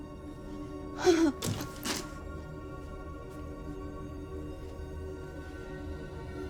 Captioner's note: pensive music continues; Dorothy whimpering; body thudding